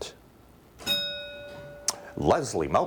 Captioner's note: bell rings